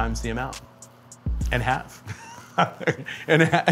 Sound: chuckles

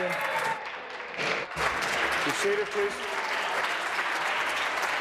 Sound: applause

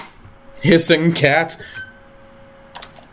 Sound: chuckle

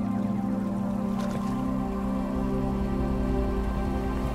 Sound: strong wind picks up, water flows

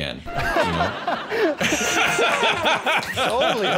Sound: laughter

